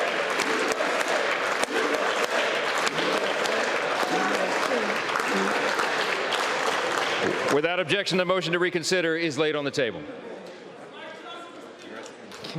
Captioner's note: chanting "usa"; applause